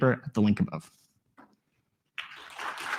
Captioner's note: applause